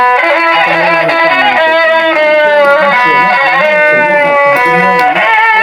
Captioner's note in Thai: ปรบมือ